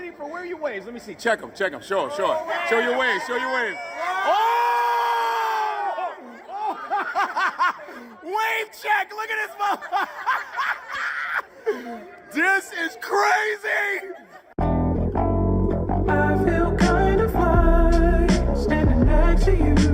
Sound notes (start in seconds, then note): 6.3 group laughing and shouting; 9.0 laughs; 13.3 laughs; 14.6 upbeat funky music